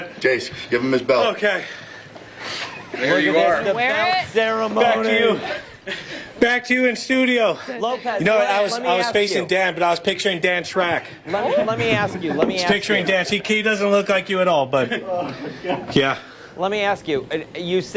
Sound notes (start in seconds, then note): 2.6 laughter; 12.5 laughter